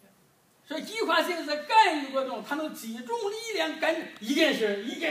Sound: speaking foreign language

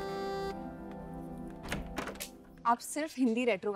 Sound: door opens

